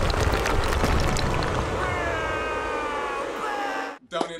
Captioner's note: booing